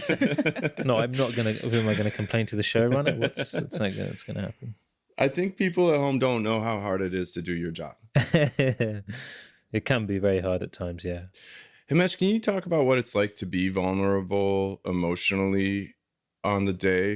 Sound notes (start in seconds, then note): 0.0 laughter; 8.2 chuckles